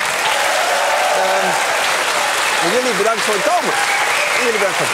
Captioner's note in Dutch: applaus en gejuich